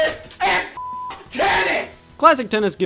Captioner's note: beep